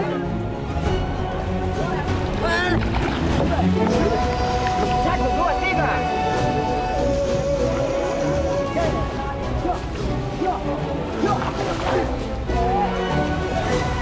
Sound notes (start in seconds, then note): 0.2 epic music; 2.1 speaking Indonesian